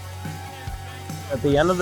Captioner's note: uptempo energetic music; crowd cheering